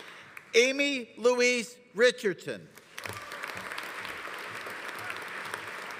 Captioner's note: audience applauding